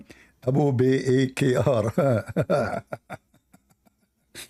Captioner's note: Ketawa